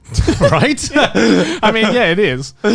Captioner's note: laughs